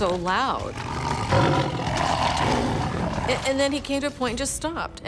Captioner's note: tiger growling